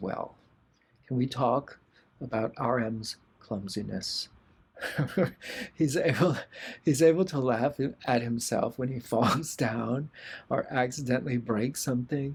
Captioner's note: laughter